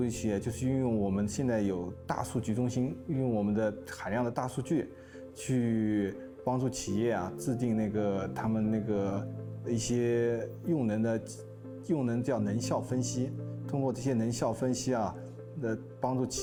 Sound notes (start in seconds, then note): 0.1 speaking Chinese